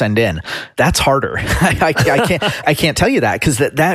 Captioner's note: laughs